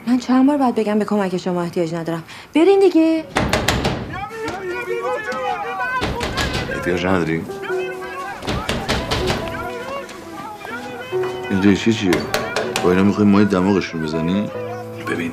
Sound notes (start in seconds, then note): 3.3 door knocking; 8.4 knocking the door; 10.0 shouting